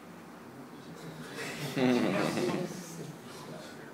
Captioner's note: laugh and the public is astonished